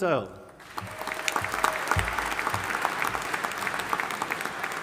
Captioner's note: audience applauding